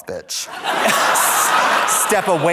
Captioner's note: audience laughs